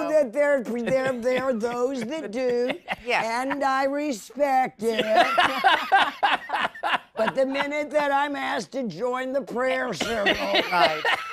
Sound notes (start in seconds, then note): 4.8 laughter